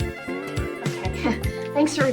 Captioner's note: telephone ringing